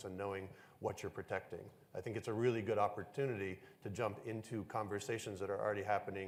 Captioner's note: none